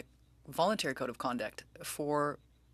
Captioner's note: speaking french